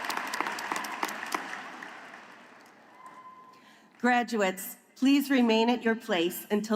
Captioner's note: applause